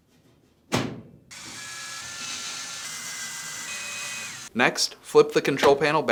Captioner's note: screwdriver whirs